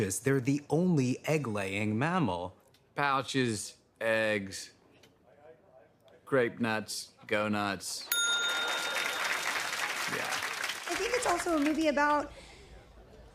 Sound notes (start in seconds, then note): 8.1 ding!; 8.4 laughter and applause